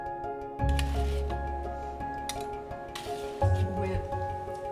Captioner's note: scraping against pan